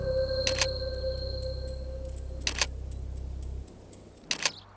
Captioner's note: camera clicks